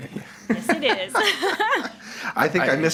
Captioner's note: both laugh